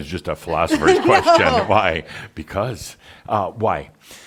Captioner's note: chuckles